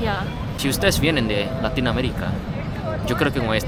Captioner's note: Spanish